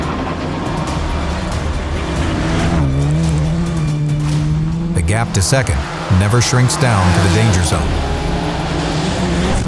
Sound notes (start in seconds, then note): 0.1 suspenseful music; 2.3 engine revving